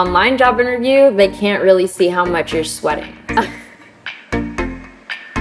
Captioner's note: laughs